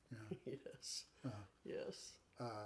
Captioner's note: chuckles